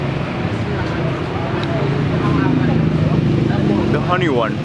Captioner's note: lips smacking